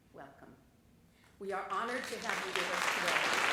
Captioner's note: applause